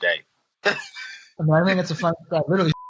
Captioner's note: laughs